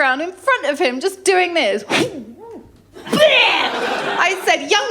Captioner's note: gagging & spitting